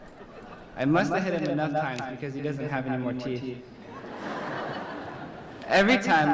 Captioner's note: laughter